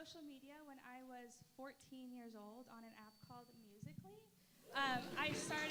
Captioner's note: applause